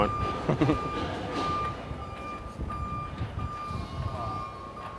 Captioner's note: machines beeping